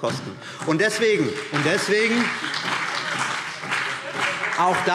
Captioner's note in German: Beifall BÜNDNIS 90/DIE GRÜNEN und vereinzelt SPD